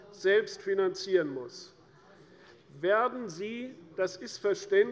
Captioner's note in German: none